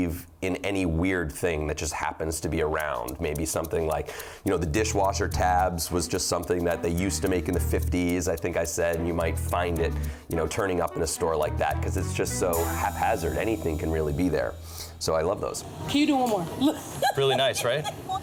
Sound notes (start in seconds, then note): 16.4 laughs